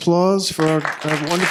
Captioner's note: applause